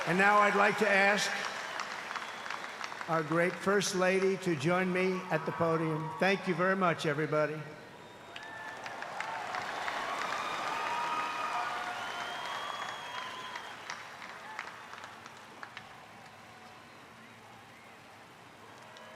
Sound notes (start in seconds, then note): 8.1 applause